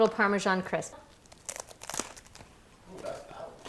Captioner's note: crunching